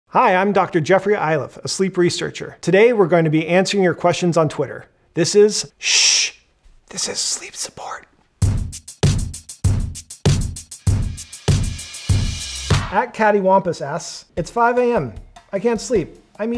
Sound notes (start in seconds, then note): 6.1 whispers; 8.4 upbeat music